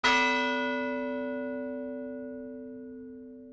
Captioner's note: bell tolls